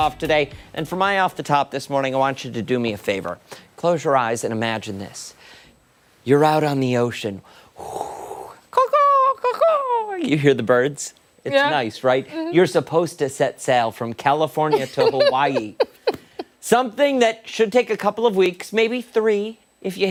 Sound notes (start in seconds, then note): 14.7 laughter